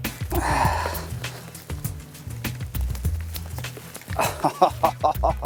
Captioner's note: laughing